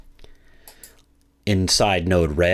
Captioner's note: computer mouse clicking